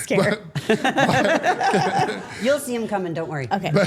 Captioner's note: Steph laughing